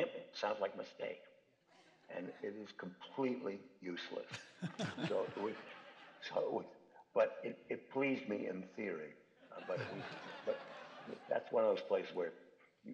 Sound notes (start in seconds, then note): 4.1 chuckles; 9.4 laughter